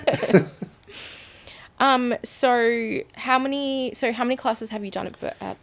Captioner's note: both laughing